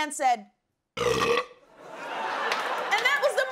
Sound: burps

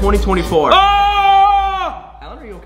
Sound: screaming

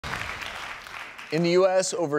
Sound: audience applauding

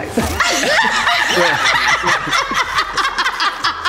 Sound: everyone laughs

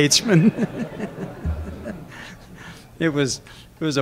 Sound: laughter

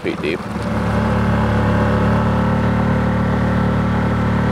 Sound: boat engine humming

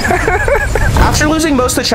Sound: laughs

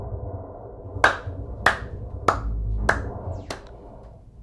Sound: clapping

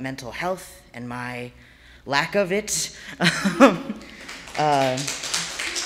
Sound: laughs; audience applauding

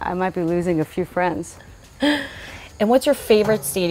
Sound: laughs

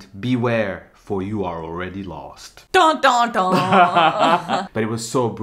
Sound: laughing

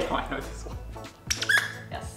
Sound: squeaks

